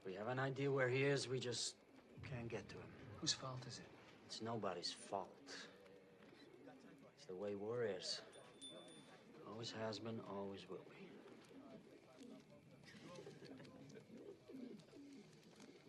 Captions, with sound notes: We have an idea where he is. We just can't get to him. - Whose fault is it? - It's nobody's fault. It's the way war is. [BELL RINGS] It always has been, always will be.